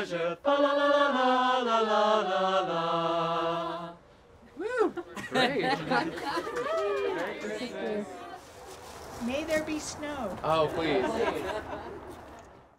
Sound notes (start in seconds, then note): 4.5 carolers laughing and cheering; 10.5 carolers laughing